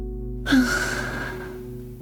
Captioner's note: sigh